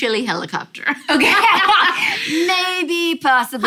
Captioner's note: laughter